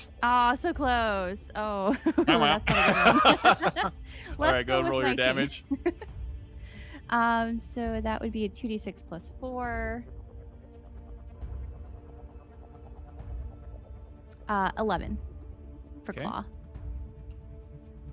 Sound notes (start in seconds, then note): 1.8 laugh; 1.9 mumbles; 6.7 laughs; 10.2 intense dramatic music